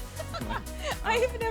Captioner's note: laughing